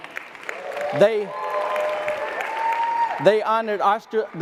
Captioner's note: audience applause and cheers